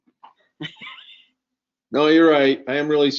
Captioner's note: laughs